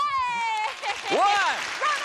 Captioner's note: excited yells